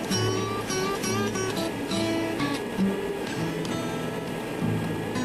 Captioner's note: machine whirring